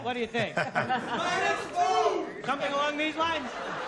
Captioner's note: laughter; audience shouts